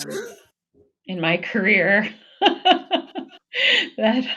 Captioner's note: both laughing